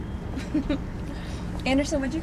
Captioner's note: laughs